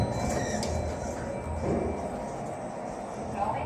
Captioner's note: chime